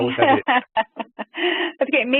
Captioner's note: laughter